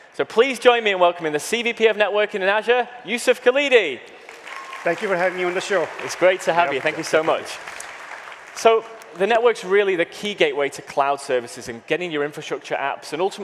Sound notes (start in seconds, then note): 4.2 audience applauding